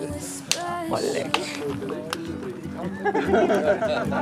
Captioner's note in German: Lachen, fröhliches Stimmengewirr